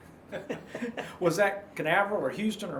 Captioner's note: laughing